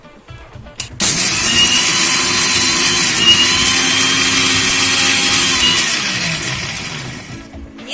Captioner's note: grinding sound